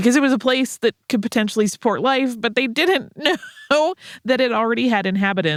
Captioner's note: laughs